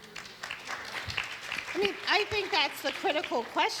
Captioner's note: audience applauds